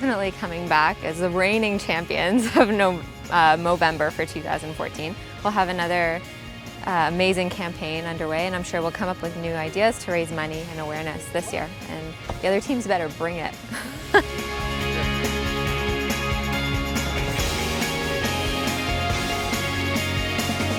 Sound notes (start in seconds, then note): 13.6 laughs